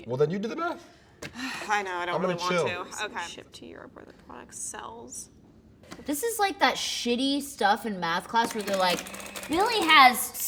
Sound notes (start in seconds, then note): 1.7 sighs; 8.4 adding machine whirring